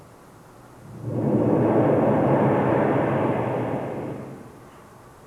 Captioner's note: shri mataji blows into the microphone